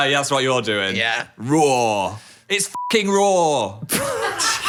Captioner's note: beep; all laugh